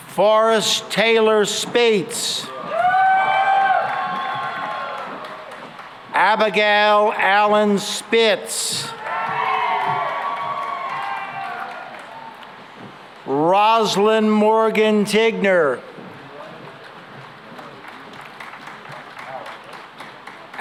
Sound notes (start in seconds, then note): 2.4 cheering and applause; 8.6 cheering and applause; 17.2 applause